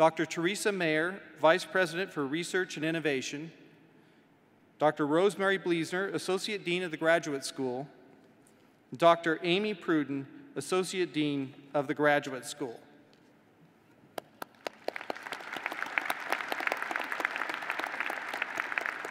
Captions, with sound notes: TECHNOLOGY AND CHIEF INFORMATION OFFICER DR. PATRICIA PERILLO, VICE PRESIDENT FOR STUDENT AFFAIRS DR. THERESA MAYER, VICE PRESIDENT FOR RESEARCH AND INNOVATION DR. ROSEMARY BLIESZNER, ASSOCIATE DEAN OF THE GRADUATE SCHOOL; DR. AMY PRUDEN, ASSOCIATE DEAN OF THE GRADUATE SCHOOL [ APPLAUSE ]